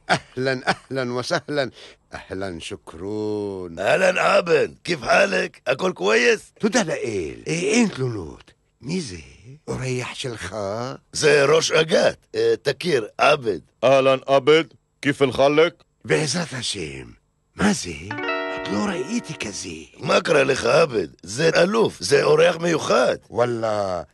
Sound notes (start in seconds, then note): 4.6 in arabic; 5.5 in half hebrew half english; 7.5 in hebrew; 15.7 in hebrew like a jewish person